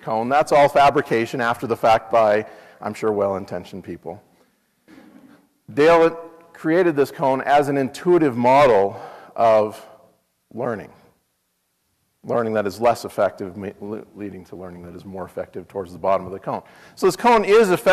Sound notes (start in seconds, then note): 4.9 laugh